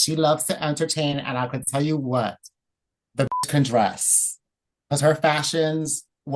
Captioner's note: beep